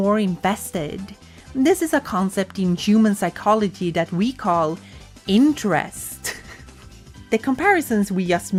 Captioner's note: giggle